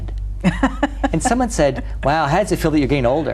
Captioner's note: laughs